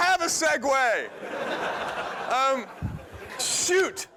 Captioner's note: laughter